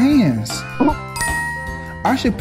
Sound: graphics dinging

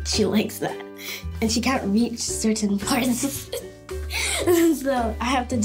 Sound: laughs

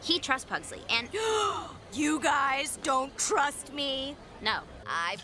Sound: gasp!

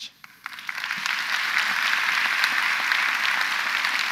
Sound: audience applauds

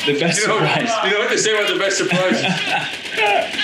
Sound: laugh

